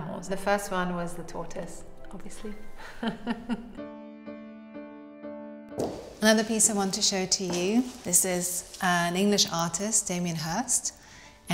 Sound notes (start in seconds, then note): 2.8 pensive music; 2.8 Claudia laughing